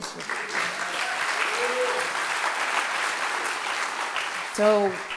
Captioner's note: audience clapping and cheering